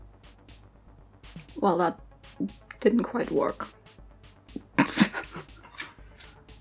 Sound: laughs

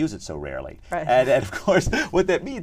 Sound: laugh

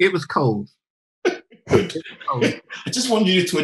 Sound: laughing

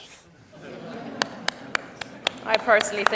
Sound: audience laughs, claps

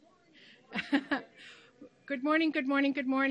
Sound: laughs

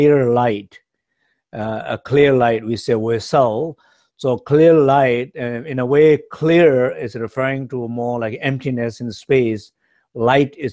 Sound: speaks Tibetan

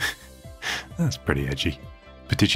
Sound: laughs

